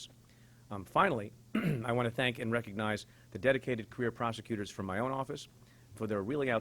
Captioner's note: clears throat